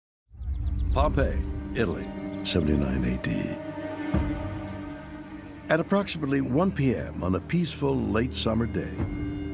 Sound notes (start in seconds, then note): 1.5 birds chirping